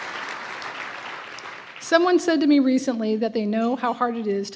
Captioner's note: applause